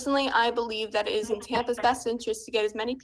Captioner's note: ~interference~